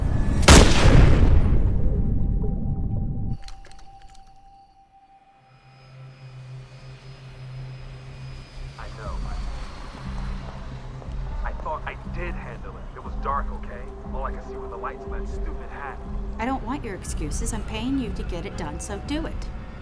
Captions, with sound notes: (gun fires) (airplane whirring) - I know. I thought I did handle it! It was dark, okay? All I could see were the lights on that stupid hat. - I don't want your excuses. I'm paying you to get it done, so do it.